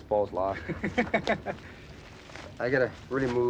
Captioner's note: kevin laughs